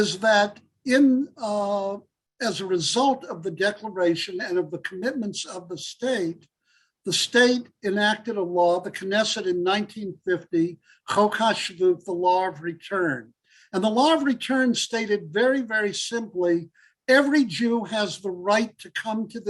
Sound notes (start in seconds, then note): 10.2 Hebrew